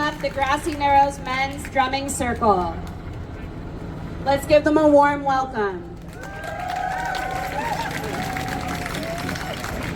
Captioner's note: applause